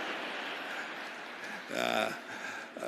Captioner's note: laughter